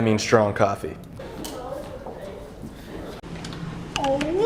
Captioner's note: sounds of stress